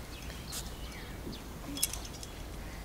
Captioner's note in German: Vogelgezwitscher